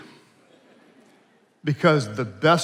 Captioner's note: attendees laughing